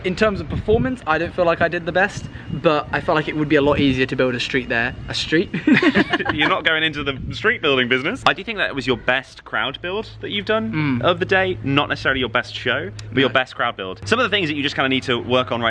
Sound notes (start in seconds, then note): 5.6 laughing